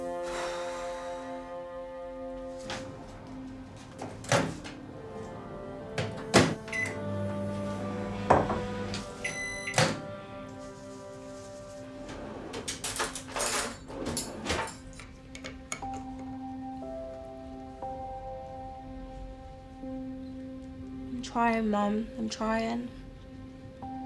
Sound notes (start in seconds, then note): 0.0 Crystal sighing; 6.7 microwave beeping; 7.5 microwave whirring; 9.2 microwave beeping; 15.5 gentle music; 23.8 gentle music